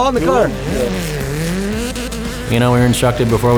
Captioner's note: car engine roaring